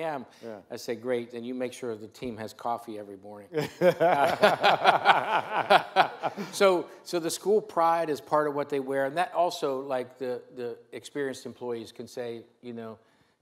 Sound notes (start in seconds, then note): 3.5 both laugh